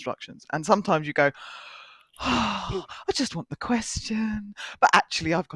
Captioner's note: sighs